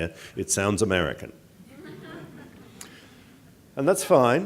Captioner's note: audience laughing